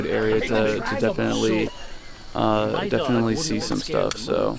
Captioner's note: members chattering